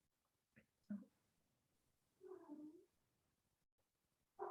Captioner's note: cat meows